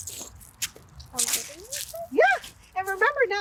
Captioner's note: doubtfully